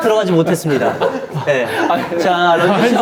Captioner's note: out of breath